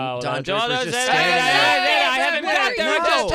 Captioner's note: all shouting